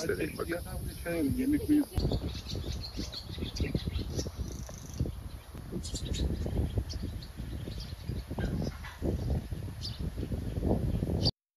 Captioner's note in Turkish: Kuş sesleri